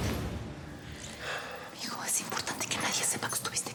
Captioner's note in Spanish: hablan en voz baja